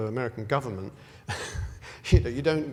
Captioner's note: laugh